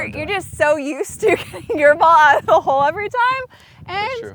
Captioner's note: laughs